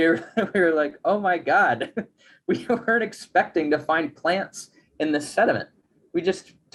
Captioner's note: chuckles